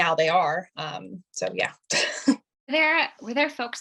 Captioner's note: chuckling